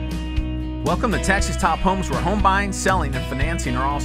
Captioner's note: voiceover